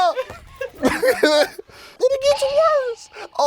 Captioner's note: laughing